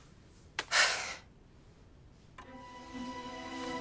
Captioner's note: sighs